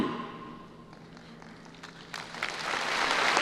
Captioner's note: applause